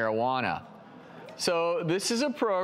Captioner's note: audience members gasp